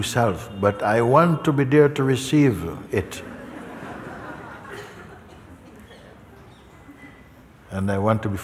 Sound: laughter

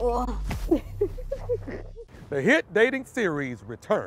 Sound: laughs

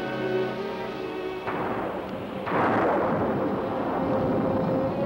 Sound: thunder clashing

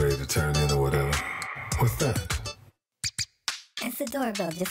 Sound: doorbell ring

